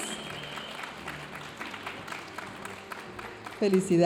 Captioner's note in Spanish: aplausos y vítores de la audiencia